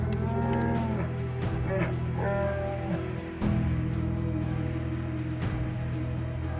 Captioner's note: bear screams